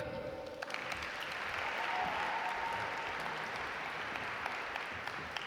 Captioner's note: audience applaud